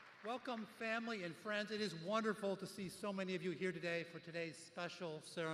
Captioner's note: cheers